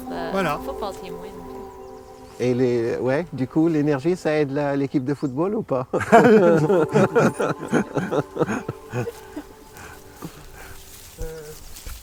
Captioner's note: laughs